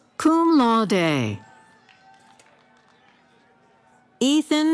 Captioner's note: cheering